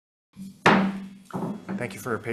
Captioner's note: gavel taps